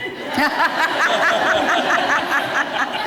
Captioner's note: laughter